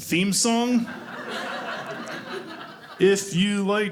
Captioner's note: audience laughing